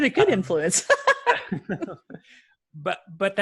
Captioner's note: laughs